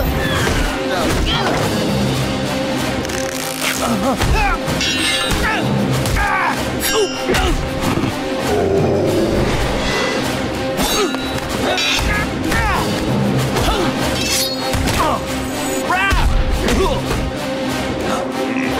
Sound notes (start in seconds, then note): 0.3 grunting; 5.6 grunting; 7.8 growling; 10.2 grunting; 14.2 grunting